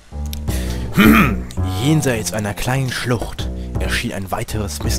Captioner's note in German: räusper